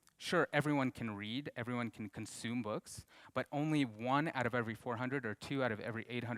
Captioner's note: none